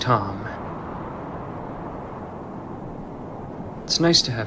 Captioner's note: wind whooshing